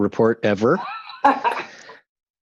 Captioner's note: laughter